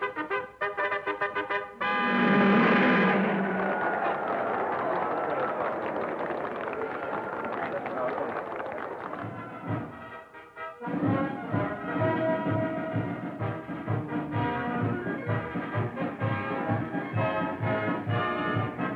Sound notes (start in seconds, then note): 1.9 cars revving; 2.4 crowd applauding